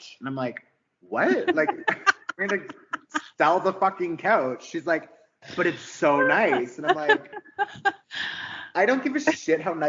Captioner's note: laughing